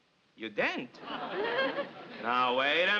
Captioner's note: audience laughs